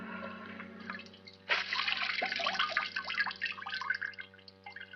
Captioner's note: water splashes